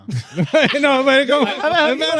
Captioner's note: all Laughing